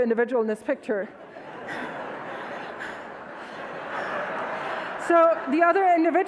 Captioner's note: audience laughs